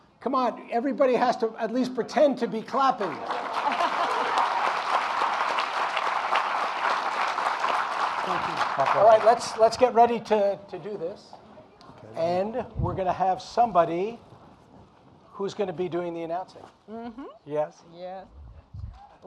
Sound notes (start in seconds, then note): 3.0 audience applauding